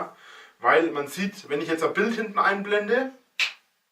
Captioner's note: snaps